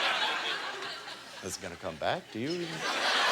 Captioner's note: audience laughter